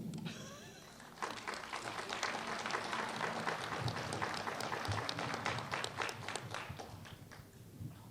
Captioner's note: applause